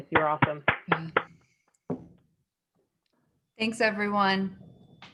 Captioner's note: claps